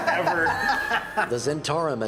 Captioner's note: laughter